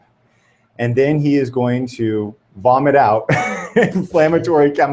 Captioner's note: laughs